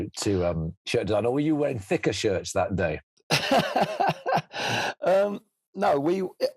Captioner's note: laughs